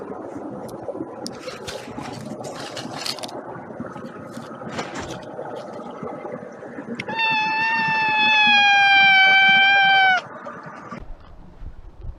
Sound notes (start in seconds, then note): 7.0 one long loud continuous meow